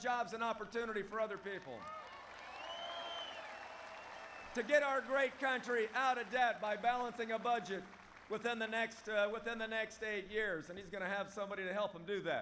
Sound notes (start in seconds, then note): 2.1 applause